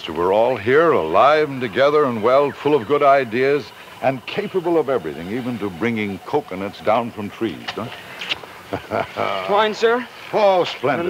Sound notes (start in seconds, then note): 8.5 Anton laughs